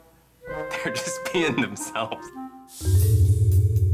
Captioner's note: chuckles